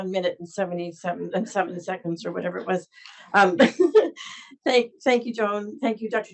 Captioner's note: laughs